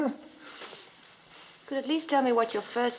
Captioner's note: groaning